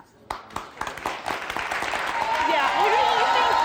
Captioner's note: applause